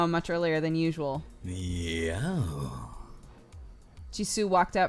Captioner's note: cry